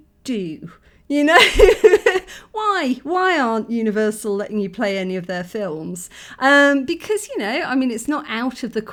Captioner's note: laughing